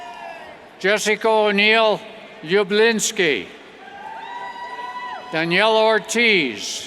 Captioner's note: cheers